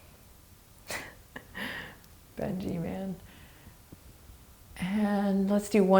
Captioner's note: laughing